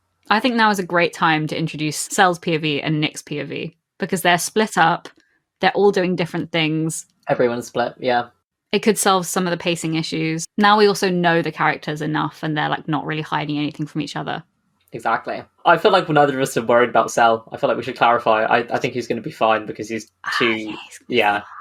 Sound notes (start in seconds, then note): 20.5 whispers